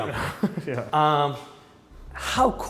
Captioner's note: laughing